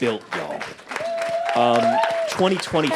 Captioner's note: audience applauding